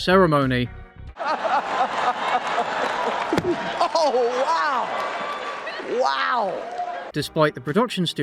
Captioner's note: laughs